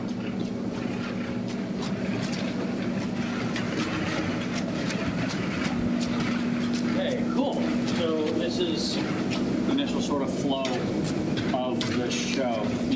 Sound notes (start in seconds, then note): 2.8 slurp